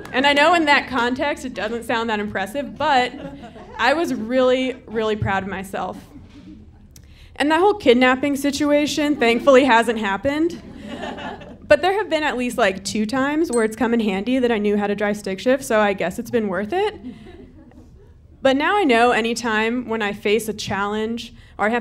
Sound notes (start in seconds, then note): 10.5 audience laughing